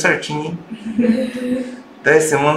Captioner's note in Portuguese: risos